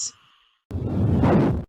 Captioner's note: explosive sounds